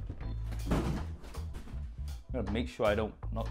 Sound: thuds

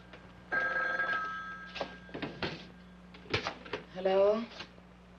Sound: telephone ringing

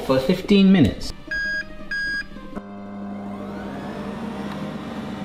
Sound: air fryer beeping

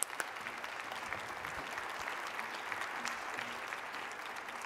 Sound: applause

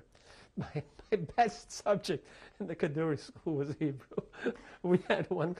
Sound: laughs

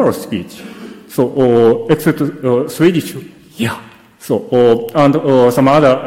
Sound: speaks in foreign language

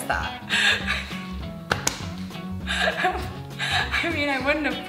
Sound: gasping

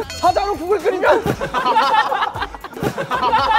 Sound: kekekekeke

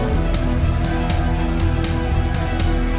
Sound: cheers

